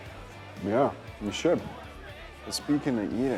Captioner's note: none